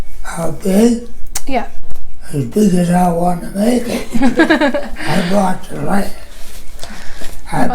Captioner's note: laughing